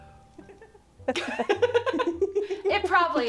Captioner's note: more giggles